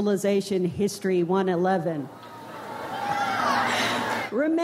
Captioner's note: crowd roars